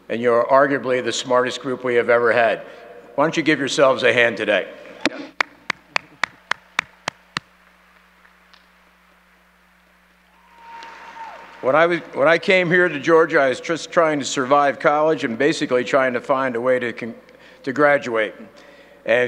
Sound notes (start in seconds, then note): 5.4 clapping